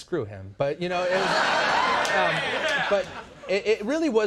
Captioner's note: audience laughing